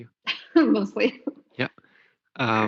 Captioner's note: laughs